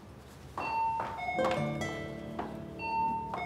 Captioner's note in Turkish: Kapı zili çalıyor